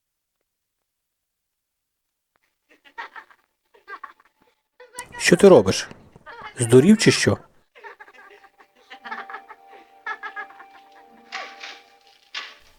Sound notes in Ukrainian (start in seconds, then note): 2.7 сміх на фоні; 9.1 сміється